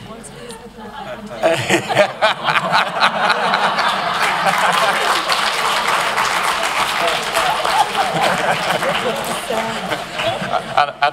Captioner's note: applause